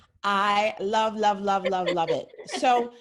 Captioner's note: laughs